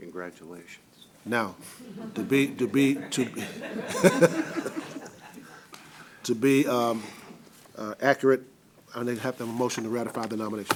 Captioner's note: laughter